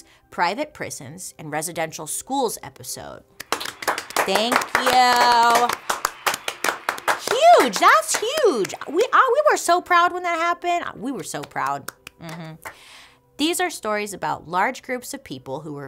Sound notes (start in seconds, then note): 3.4 hand claps